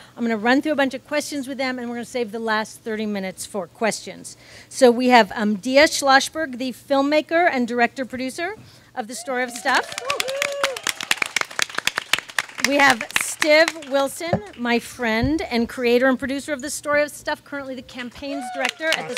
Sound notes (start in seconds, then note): 9.2 audience claps and cheers